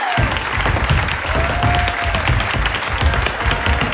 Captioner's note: audience applauding; audience cheering; shoes tapping